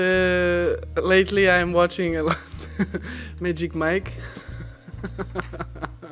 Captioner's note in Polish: śmiech